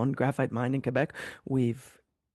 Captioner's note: speaking French